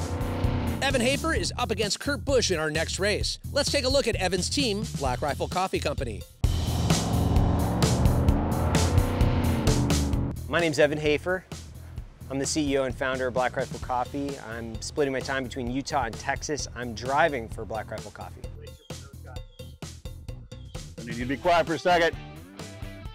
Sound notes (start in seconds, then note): 0.0 jetboat sounds; 6.7 jetboat sounds